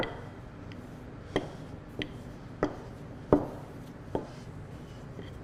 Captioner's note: rolling pin tapping